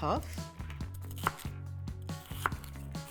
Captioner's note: chopping